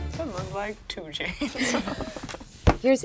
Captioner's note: laughing